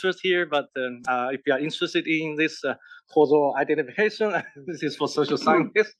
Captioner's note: laugh